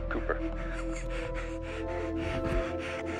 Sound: chuckles

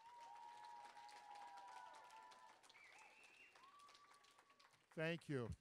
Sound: audience cheering; applause

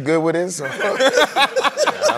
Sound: laughter

